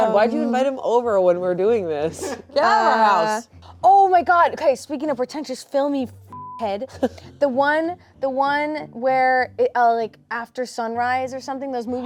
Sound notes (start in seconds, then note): 6.3 beep